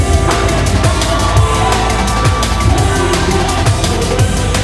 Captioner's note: crowd cheering